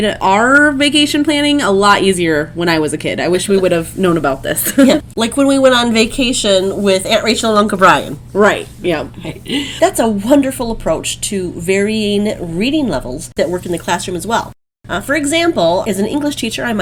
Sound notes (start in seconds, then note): 4.6 laugh